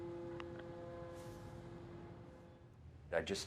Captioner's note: boat horn blaring